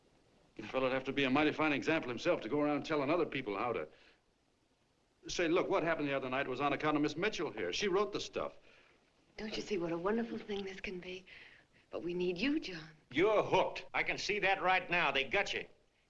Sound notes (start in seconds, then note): none